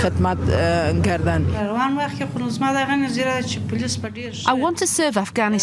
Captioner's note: speaking foreign language